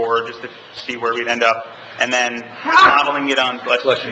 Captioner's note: member sneezing